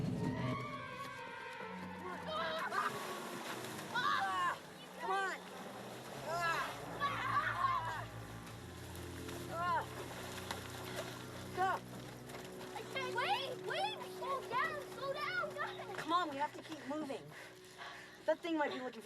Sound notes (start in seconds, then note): 0.1 screams; 3.8 screaming; 4.6 all screaming